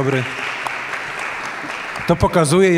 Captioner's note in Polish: oklaski